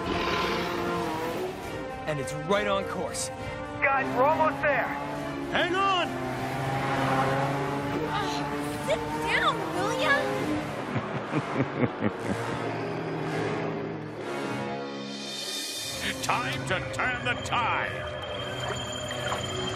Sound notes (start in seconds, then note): 10.7 evil chuckling